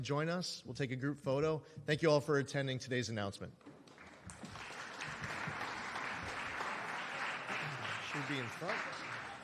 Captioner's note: applause